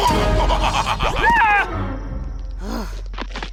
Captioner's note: suspenseful music; laughs; screams